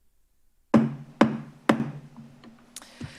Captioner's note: gavel taps